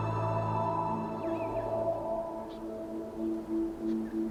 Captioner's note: birds chirping